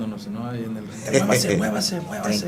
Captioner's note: laugh